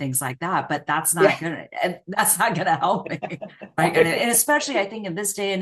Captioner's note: laughs